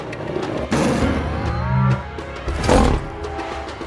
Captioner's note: intense music; mask activating; roar; intense music